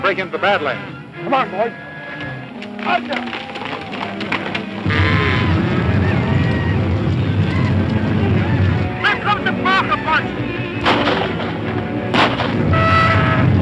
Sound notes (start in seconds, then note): 5.1 cows stampeding; 5.1 men shouting; 10.7 guns firing